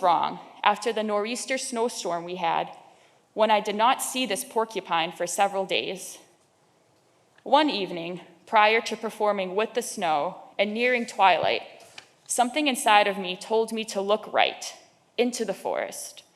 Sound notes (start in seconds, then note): none